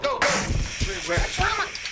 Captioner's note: fire extinguisher hissing